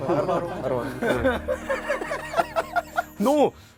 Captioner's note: heeheehee…